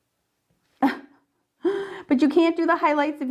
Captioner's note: laughs